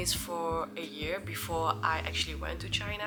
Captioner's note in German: Mandarin